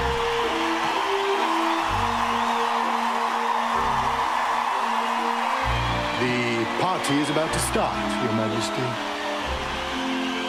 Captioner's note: cheers and applause